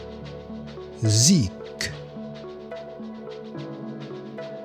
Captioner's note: german